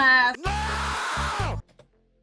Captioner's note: charles leclerc scream